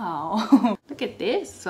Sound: laughs

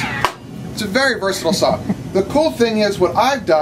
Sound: laughing

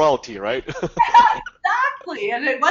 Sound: laughing

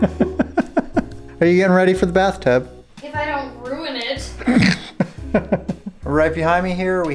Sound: laughs; laughter

